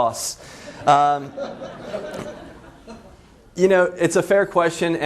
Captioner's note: laughs